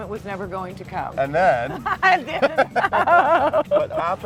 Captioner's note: laughing